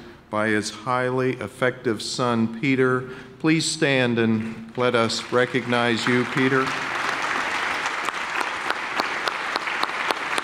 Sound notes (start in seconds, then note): 6.8 clapping